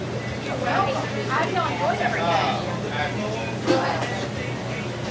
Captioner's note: patrons chattering